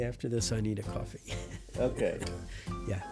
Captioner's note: laughs